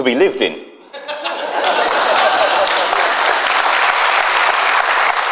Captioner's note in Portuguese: Aplausos